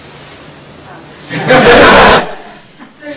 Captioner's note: laughter